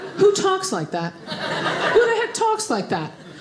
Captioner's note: audience laughing